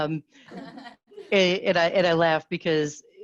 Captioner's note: students laugh